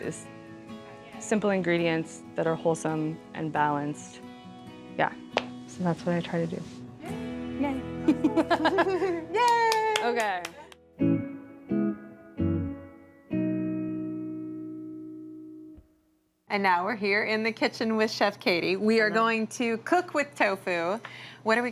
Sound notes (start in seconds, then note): 8.0 laughs; 9.4 clapping